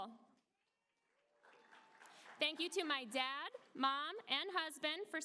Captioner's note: applause